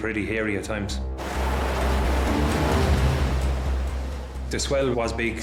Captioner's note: waves crashing